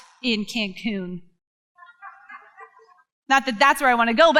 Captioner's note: crowd laughs